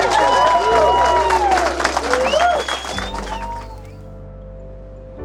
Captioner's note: birds calling